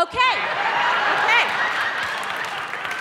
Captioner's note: audience laughing